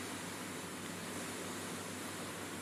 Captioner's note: none